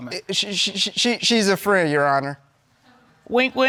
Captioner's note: stammers